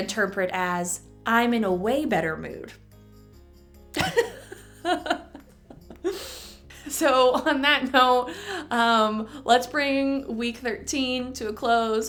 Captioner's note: laughter